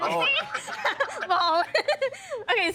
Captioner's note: all laughing